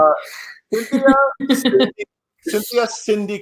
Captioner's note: laughs